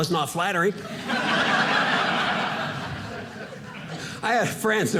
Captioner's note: audience laughing